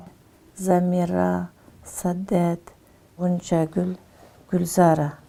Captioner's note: speaking foreign language